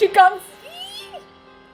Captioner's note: squeals of excitement